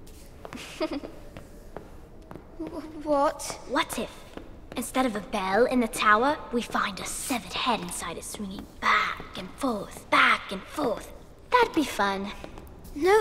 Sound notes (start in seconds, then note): 0.5 girl laughs